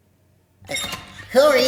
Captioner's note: robot twitching